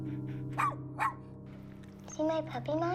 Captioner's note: dog barking